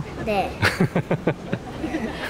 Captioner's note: laughs